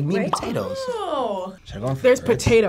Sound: bubble popping

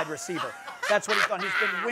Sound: laughs

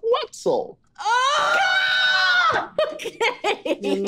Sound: group screaming

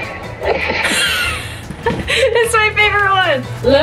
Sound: laughing

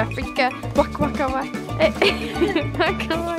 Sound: laughing; laughs

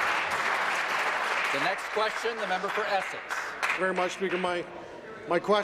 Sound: applause

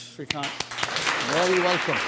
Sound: applause

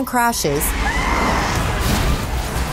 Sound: woman screaming

